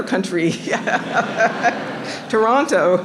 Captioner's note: laughs